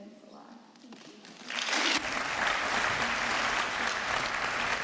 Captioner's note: applause